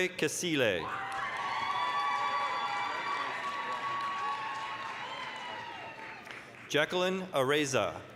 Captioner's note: applause, cheering